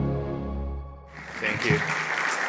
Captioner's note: audience claps